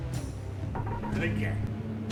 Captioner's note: ship chirps